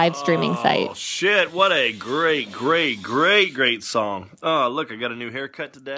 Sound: moaning

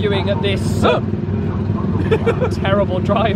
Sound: yelps

